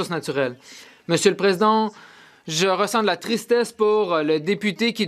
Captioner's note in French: voix de l'interprète